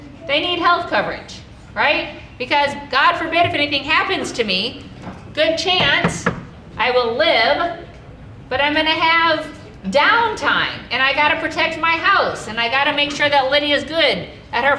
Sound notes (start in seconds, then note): 5.8 knocking on wood